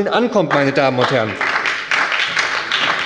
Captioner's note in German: Beifall bei der SPD